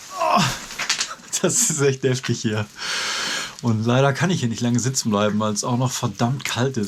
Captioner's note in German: Japst